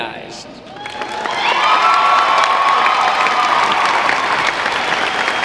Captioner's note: audience cheering